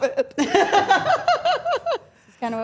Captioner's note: Dylan and Stephanie laugh